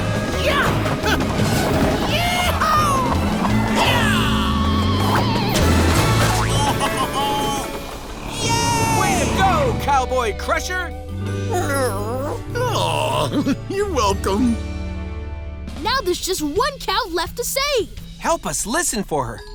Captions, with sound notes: Yeah-ah! Yee haw! Yah! [chuckling] -Yay! -Way to go, Cowboy Crusher. [cooing] Aww, you're welcome. Now there's just one cow left to save. Help us listen for her.